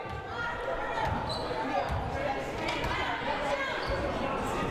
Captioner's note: crowd murmuring